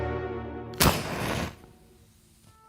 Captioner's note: match striking